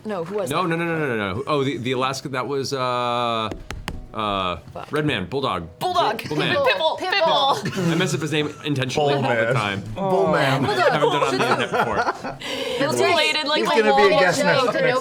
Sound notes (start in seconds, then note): 10.2 laughing; 10.8 groans